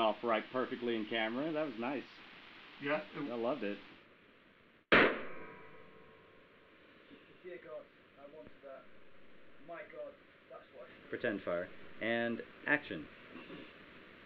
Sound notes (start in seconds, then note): 4.9 gunshot booming